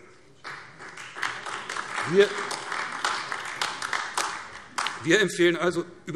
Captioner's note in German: Beifall AfD